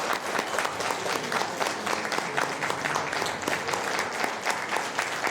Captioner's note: applause